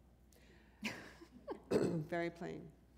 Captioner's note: chuckle